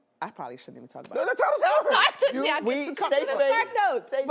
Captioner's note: laughs